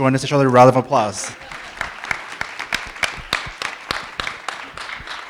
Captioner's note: audience applauding